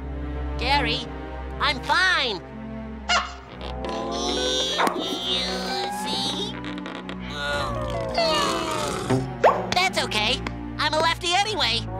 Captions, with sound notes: Gary, I'm fine. [grunting] That's okay. I'm a lefty anyway.